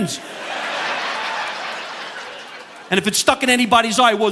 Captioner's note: audience laughing